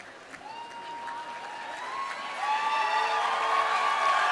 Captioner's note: audience continues cheering; audience continues applauding